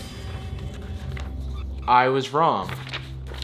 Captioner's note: tense music; pages turning